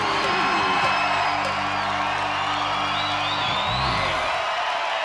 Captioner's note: audience cheering